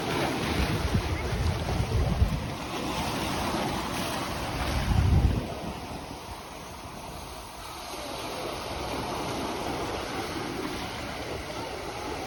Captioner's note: ocean waves